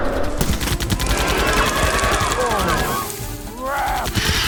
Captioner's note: gunfire; angry screeches and roars